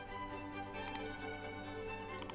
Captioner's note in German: Klick